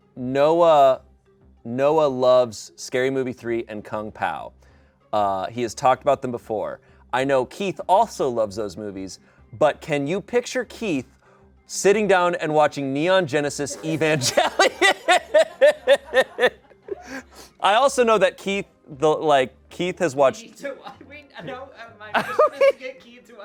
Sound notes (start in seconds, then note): 13.8 everyone laughs